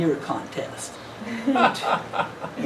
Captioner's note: laughing